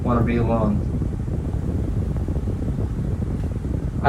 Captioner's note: fan noise